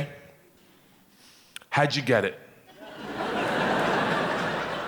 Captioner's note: audience laughing